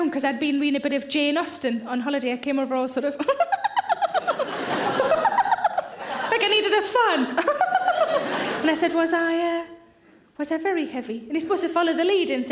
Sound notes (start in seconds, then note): 3.2 giggling; 3.5 audience laughing; 7.4 giggles; 7.4 audience laughing